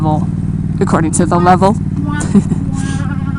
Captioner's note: hurr hurr